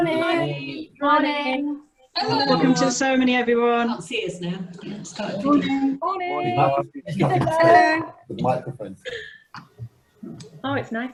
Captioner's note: greetings uttered by many people